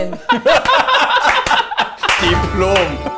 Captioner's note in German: Gelächter im Hintergrund